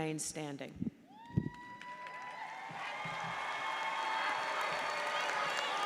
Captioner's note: audience cheers and applauds